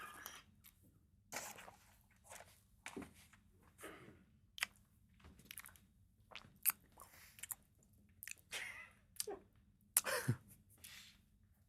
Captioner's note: laughter